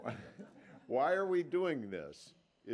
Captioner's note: laughter